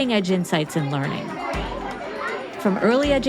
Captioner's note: students chattering